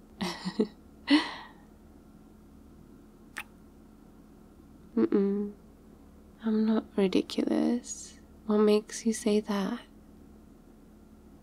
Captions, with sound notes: *laughs* *kiss* uh-uh I'm not ridiculous what makes you say that?